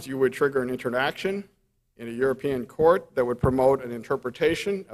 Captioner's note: none